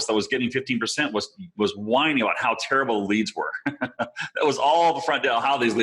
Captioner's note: chuckling